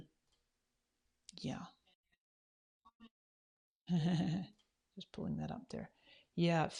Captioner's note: laughs